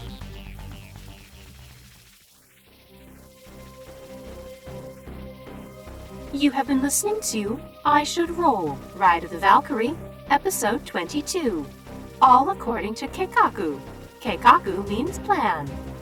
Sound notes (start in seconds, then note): none